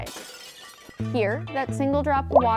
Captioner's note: glass shattering